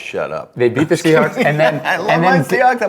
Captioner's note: Ryan laughs